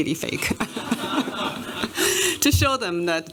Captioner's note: laughter